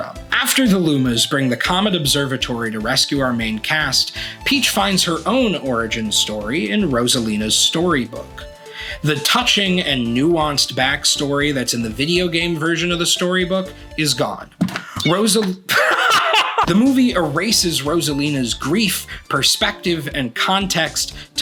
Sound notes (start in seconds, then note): 14.6 thud; 15.7 laughter